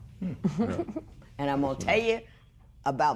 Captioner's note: chuckles